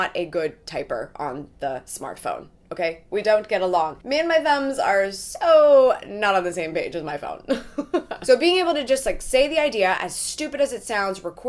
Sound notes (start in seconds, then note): 7.6 laughs